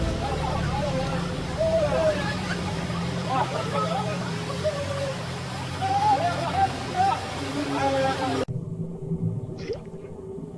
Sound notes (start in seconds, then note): 0.0 people chattering